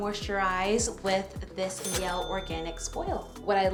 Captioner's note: bell dinging